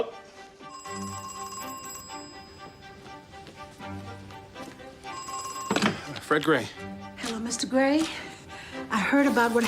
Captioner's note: telephone ringing